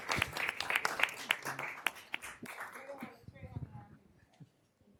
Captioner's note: applause